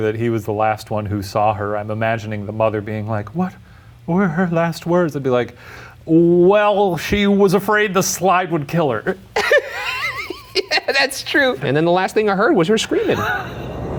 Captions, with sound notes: that he was the last one who saw her. I'm imagining the mother being like, what were her last words? It'd be like, well, she was afraid the slide would kill her. - (laughing) That's true. And then the last I heard was her screaming.